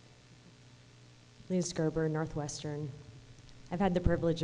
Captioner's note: voiceover